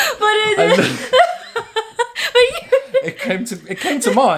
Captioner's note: both laughing